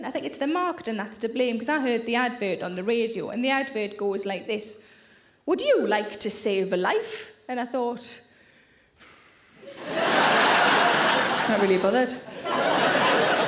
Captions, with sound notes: I think it's the marketing that's to blame 'cause I heard the advert on the radio and the advert goes like this, "Would you like to save a life?" And I thought (exhaling). (audience laughing) I'm not really bothered.